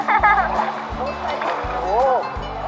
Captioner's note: assistant laughs